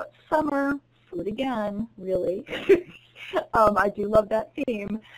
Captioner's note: chuckles